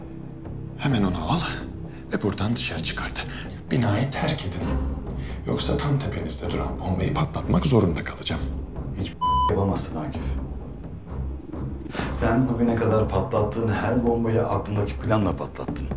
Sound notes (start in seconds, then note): 9.2 beep